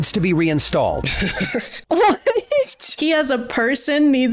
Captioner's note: laughing; laughs